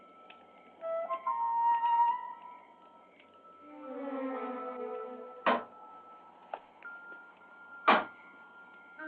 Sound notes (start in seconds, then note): 0.7 suspenseful music; 5.4 window banging